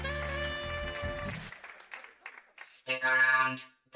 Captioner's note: Robotic voice